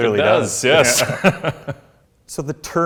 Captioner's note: laughs